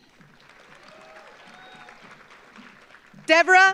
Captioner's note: audience applauds